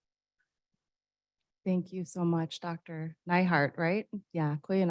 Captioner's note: speaking in indigenous language